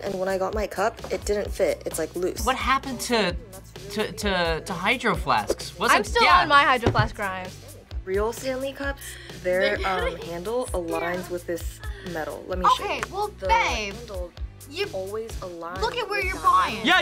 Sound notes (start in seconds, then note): 9.4 laughs